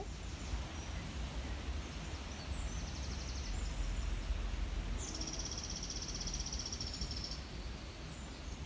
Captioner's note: birdsong